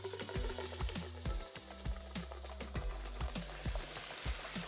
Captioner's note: liquid nitrogen bubbles